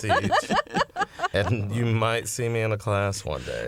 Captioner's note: laughter